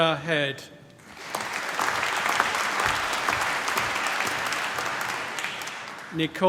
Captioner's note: applause